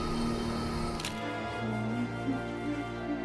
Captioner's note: dramatic music; camera shutter clicking; dramatic music